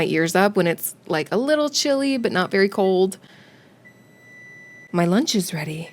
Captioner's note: oven beeps with tenacity